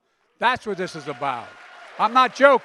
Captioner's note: applause